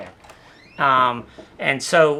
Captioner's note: door creaks